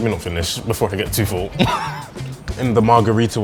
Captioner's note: laughs